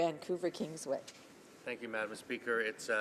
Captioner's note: speaking French